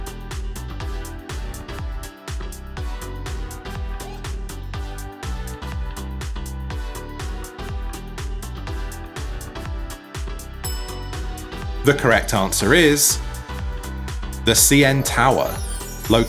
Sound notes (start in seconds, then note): 0.1 upbeat music; 10.6 bell clinking